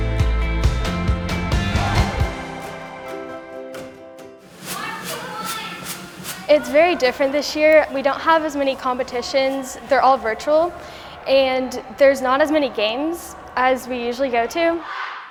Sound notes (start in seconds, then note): 4.4 pom-pom's swishing; 4.7 cheerleaders cheering